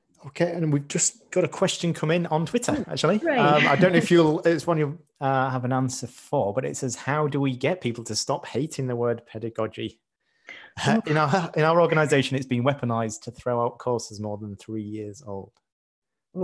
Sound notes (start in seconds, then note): 3.3 laughs